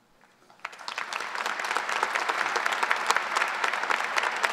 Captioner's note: audience applause